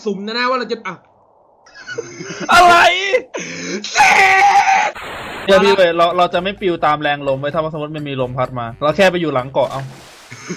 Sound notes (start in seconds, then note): 1.7 giggle